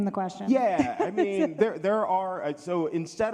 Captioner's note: laughs